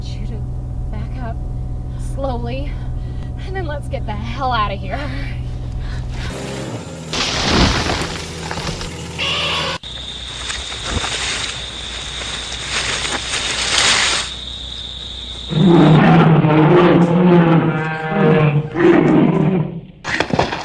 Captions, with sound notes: I want you to back up, slowly, and then let's get the... hell outta' here! ( crunching of wood) ( angry trumpet ) ( whipping vines ) ( roar ) ( angry roaring )